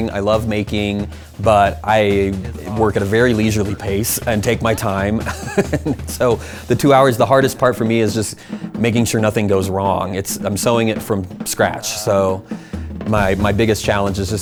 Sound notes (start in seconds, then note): 5.1 laughing